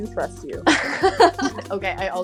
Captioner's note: laughs